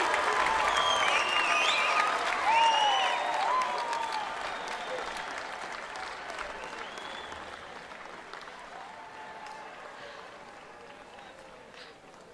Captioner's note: cheering and applause